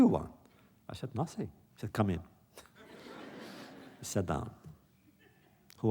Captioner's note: laughter